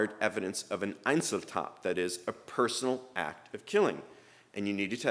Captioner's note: speaking german